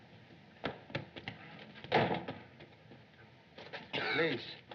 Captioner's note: door Slams Shut